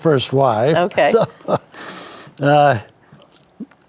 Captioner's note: chuckles